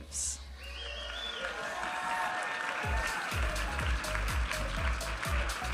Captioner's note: audience applauding and cheering